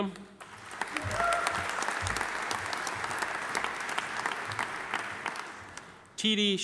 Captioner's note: audience applauding; audience cheering